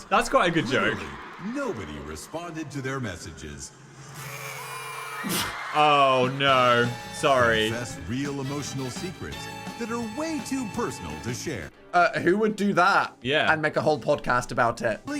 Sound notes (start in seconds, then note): 4.0 party blowers whistling; 5.2 chuckles